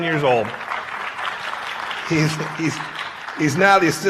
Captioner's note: applause